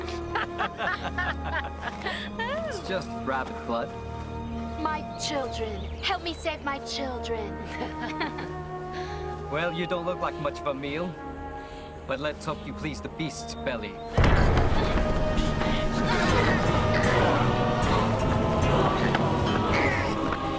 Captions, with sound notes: (laughing) It's just rabbit's blood. - My children. Help me save my children. (laughing) - Well, you don't look like much of a meal. But let's hope you please the beast's belly. (dramatic orchestral music) (grunting)